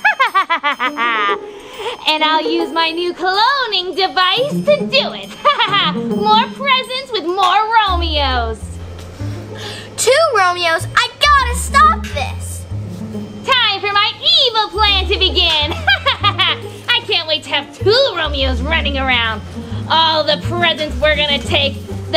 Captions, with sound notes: (laughing) And I'll use my new cloning device to do it. (laughing) More presents with more Romeo's. - Two Romeo's, I gotta stop this. - Time for my evil plan to begin. (laughing) I can't wait to have two Romeos running around. All the presents we're gonna take,